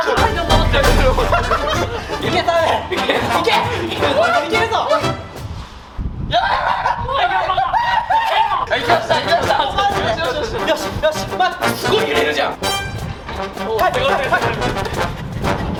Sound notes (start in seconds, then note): 1.3 laughter; 5.9 strong wind; 6.4 laughter